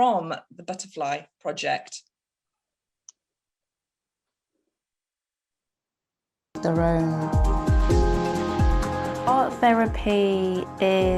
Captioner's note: woman's voiceover